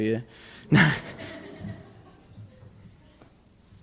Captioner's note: laughter